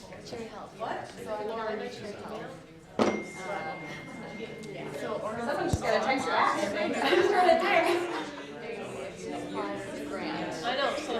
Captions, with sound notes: (excited conversations) (cell phone notification) Someone just got a text back I think, I just heard a ding.